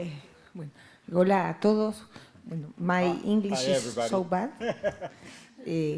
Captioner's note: Spanish language